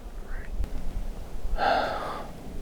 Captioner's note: heavy exhale